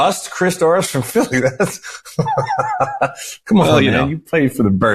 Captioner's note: laughing